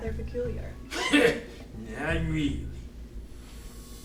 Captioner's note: scoffs